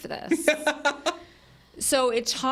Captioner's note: laughs